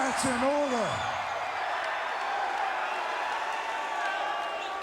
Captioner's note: crowd cheering